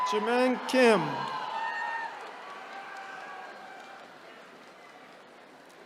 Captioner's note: attendees cheering